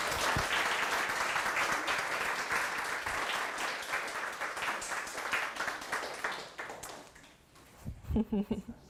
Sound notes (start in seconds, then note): 2.6 applause